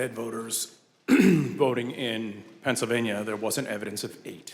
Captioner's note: clears throat